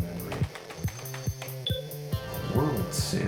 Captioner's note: rapid typing; 8-bit game theme music